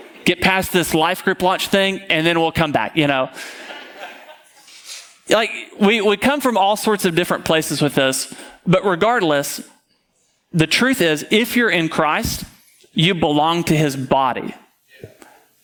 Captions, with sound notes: get past this life group watch thing, and then we'll come back, you know. (audience laughing) We come from all sorts of different places with this, but regardless, the truth is, if you're in Christ, you belong to his body.